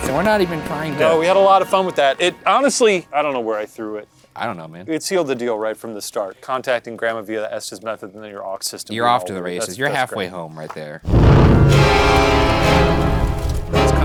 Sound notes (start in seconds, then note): 11.0 flames whooshing; 11.0 flames flickering; 11.0 abrupt ominous music